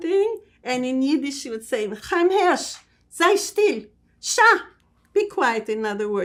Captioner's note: yiddish